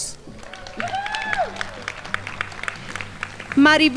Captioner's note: crowd applauding